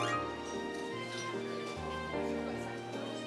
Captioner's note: soft chatter